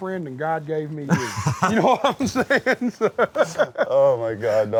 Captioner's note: laughs